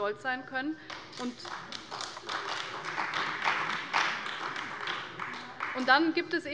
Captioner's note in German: Beifall bei der CDU